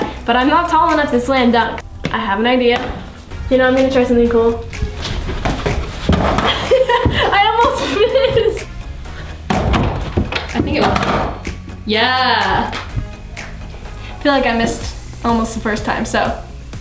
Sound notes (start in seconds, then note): 6.6 laughing